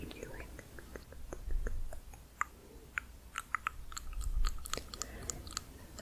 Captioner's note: tongue clicking